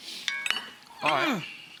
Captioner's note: dishes clattering